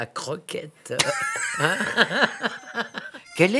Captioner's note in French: rires